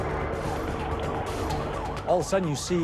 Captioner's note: siren wailing